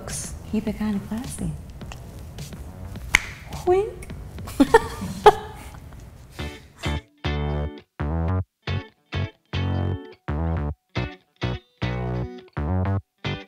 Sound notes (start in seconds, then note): 4.5 more gay laughter. sigh; 6.3 outro Music